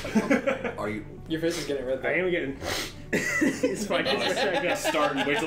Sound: snorts in, coughs

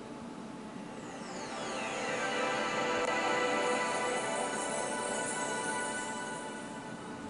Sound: windows startup sound

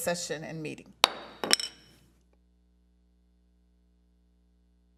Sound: gavel raps

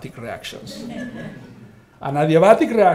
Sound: all laughing

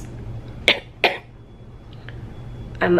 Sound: coughing

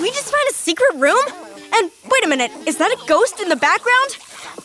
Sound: characters vocalizing throughout

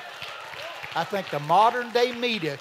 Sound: congregation clapping

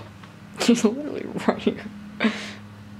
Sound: laughing

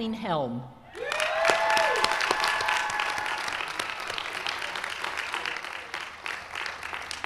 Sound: applause

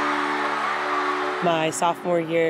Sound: crowd Cheering

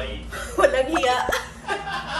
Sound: laugh

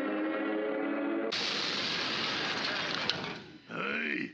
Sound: loudly crashes; loudly grunting

